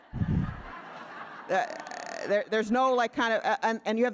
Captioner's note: audience laughing